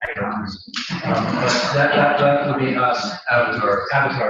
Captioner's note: laugh